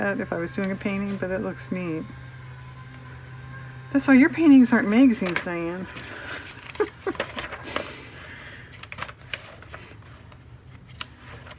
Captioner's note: laughs